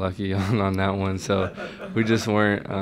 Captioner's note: laughter